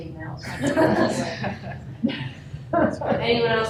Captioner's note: laughter